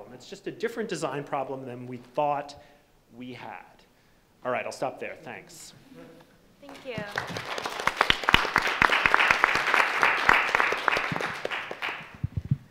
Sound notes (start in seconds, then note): 6.7 audience applauding